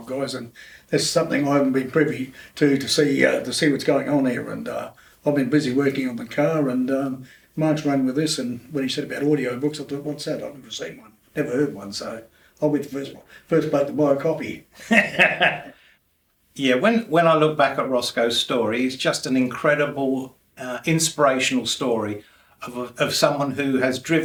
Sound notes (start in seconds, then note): 14.8 laughter